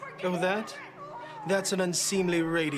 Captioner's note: Jennifer yelling